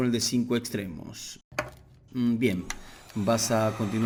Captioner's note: Se oye la pistola de calor